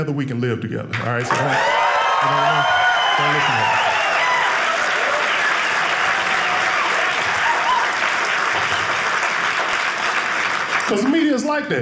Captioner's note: audience cheering